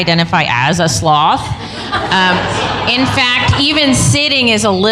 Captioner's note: laughter